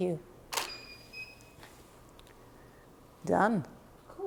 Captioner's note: shutter clicking